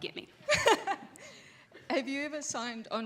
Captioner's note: laughs